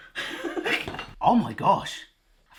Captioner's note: laughs